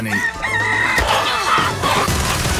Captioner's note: rooster squawks